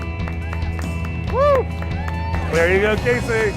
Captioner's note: clapping and hooting